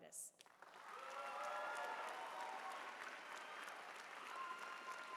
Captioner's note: applause